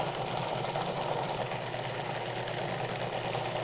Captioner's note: mixer whirring